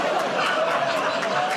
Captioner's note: audience "Oh"s